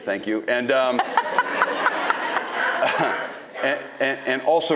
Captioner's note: audience laughing